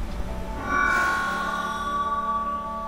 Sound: microphone Feedback

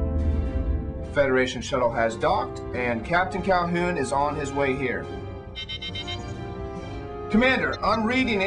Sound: alarm

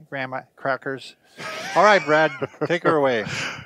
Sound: laughs

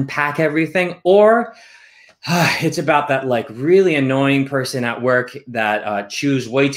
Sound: sighs

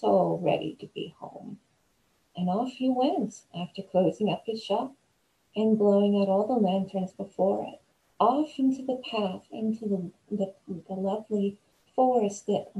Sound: creepy nature sounds

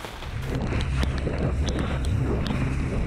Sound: raining

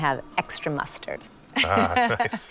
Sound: light laughter

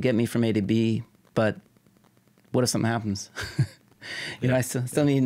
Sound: chuckling

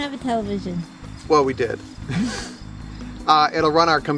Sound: laughs

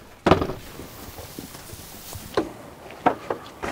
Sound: hay rustling

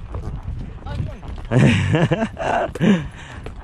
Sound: laughing

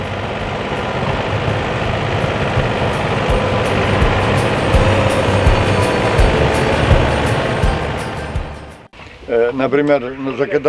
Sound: monotonous tractor noise

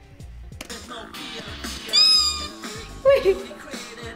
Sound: energetic music; squeals

